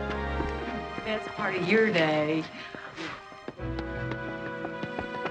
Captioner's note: bright music; blowing; dramatic music